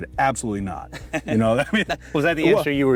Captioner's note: both laughing